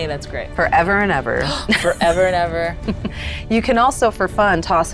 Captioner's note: chuckling